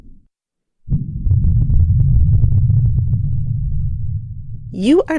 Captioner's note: muffled vibrations pulsating